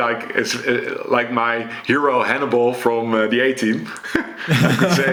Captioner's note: chuckles